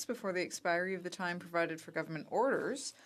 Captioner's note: speaking French